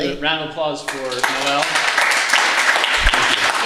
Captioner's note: audience Applause